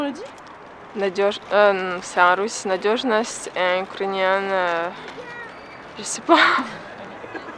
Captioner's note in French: rires